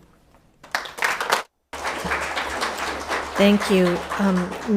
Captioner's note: audience applauding